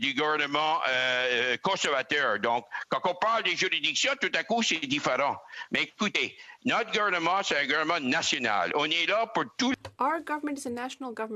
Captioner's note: speaking French